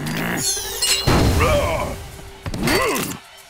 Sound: grunting

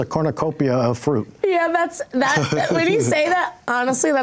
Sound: chuckles

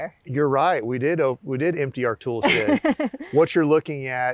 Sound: laughs

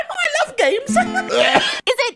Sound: coughs

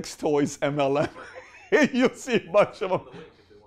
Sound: laughter

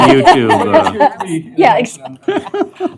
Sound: laughter

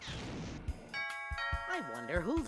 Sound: doorbell ringing

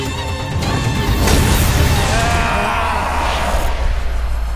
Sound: grunting

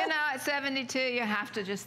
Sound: laughter

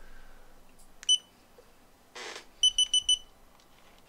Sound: camera beeping

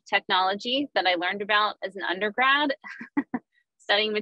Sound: chuckles

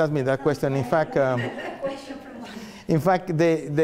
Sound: laughter

